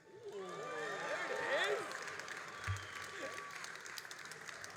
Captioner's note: all applauding and cheering